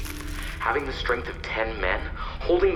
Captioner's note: ice crackling